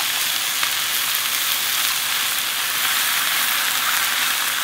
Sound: sizzling sound

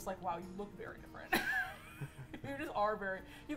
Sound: laughs

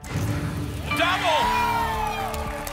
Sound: booms

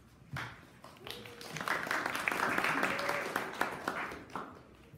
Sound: audience applauding

